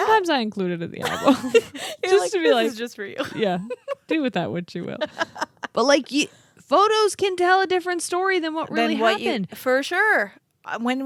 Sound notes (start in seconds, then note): 5.0 laughs